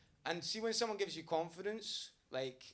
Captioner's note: none